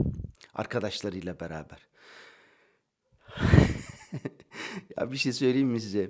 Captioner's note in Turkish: kahkaha